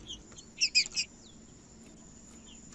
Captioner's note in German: trinca ferro cantando